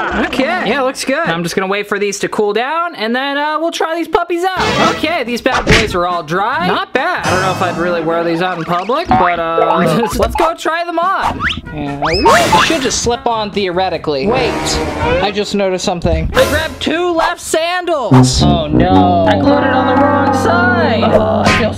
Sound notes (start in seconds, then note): 9.0 laughs; 14.3 ominous music